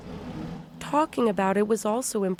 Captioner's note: voice-over